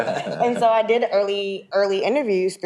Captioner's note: people laughing